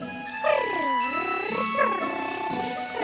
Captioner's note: chortles